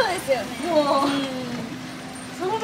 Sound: laughs

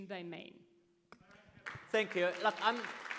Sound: audience claps

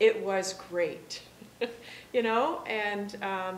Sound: laughing

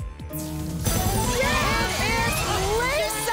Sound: cheering

